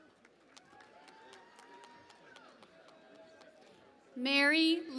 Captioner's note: cheering and Applause